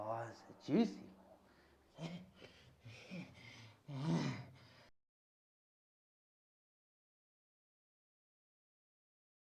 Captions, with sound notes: Oh, that's a juicy one. (grunts idly)